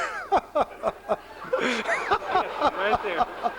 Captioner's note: laughter continues